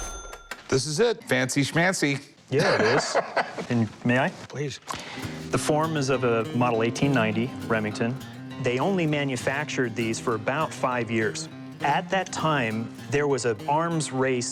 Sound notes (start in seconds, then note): 2.5 laughs